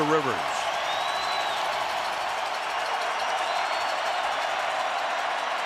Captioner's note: crowd cheering